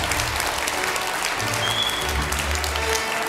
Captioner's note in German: Applaus